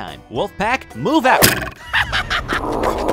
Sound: arrow twangs; skeleton laughs; wolves growling

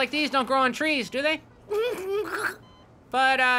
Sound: giggling

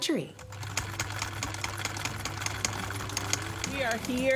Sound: film reel rolling

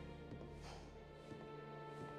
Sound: sigh

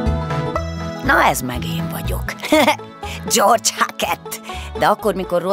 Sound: he laughs

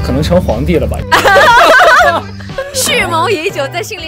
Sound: hahahahahahahahahahaha

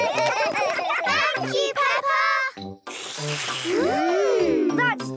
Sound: all slurping

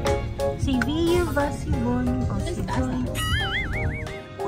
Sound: sing-song

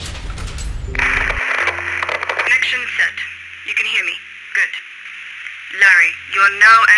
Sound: voice from radio signal

